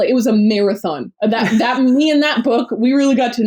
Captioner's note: laughs